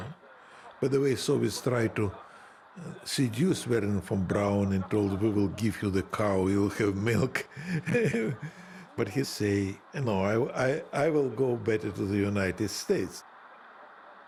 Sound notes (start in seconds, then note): 7.1 Khrushchev chuckling